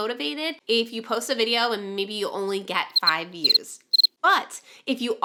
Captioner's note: cricket chirps